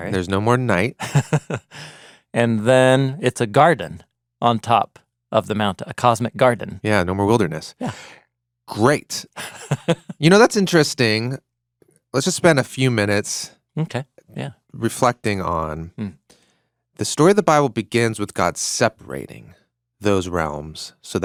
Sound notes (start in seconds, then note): 8.8 laughing